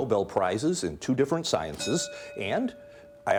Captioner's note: bell dinging